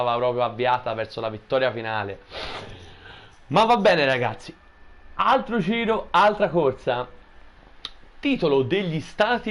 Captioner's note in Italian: sbuffare